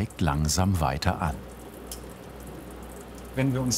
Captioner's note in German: Brutzeln